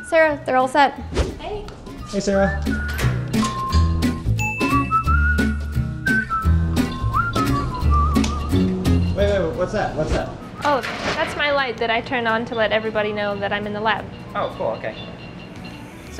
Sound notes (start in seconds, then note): 2.5 door opening; 4.4 whistling; 4.4 ding; 8.2 switch flipping